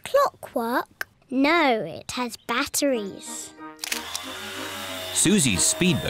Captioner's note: whirring